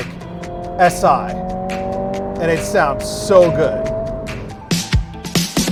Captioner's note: engine revving; upbeat music